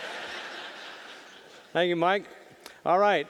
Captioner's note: audience laughing